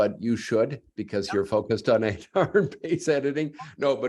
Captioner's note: laughter